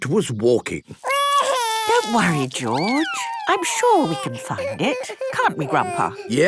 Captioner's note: George wailing